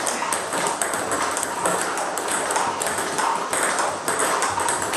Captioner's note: ball ping pong hitting continues